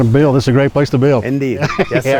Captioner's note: laughs